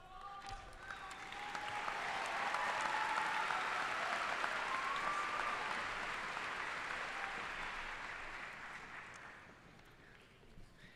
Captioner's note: applause